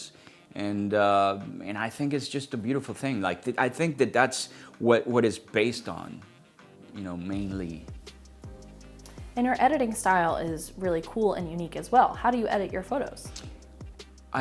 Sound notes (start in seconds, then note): none